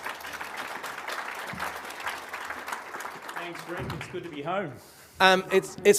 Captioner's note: applause